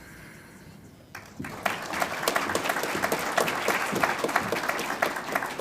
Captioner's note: audience applauds